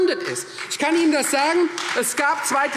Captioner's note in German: Beifall Freie Demokraten